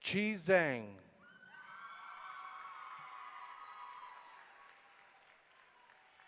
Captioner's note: audience cheering